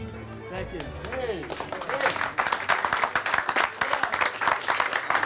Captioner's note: audience applauding